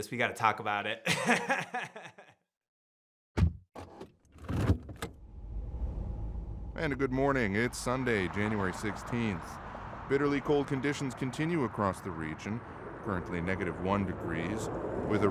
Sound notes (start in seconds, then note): 1.0 laughs; 3.3 car door clunking